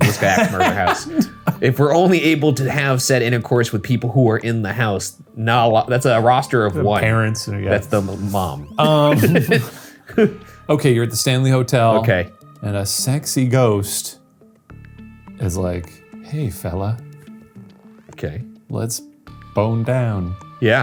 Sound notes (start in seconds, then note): 1.6 laughing; 8.7 laughing